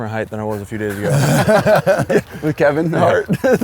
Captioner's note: laughs